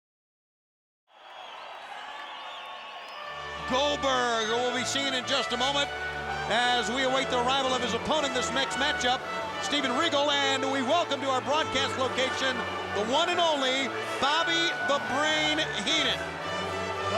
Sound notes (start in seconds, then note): 1.1 audience cheering